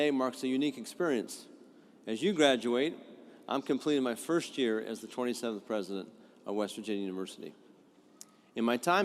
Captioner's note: none